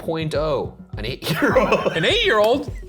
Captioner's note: laughs